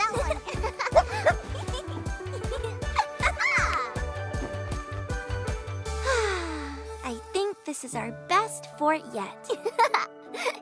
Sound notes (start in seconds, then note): 0.0 giggles and barks; 2.6 sighs